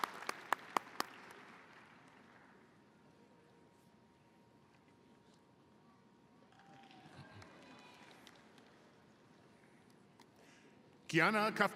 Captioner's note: applause